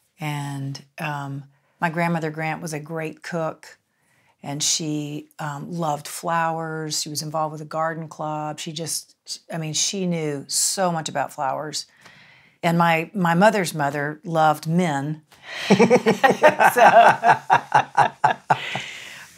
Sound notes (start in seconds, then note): 15.6 laughs